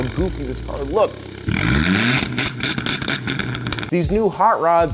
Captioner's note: engine revving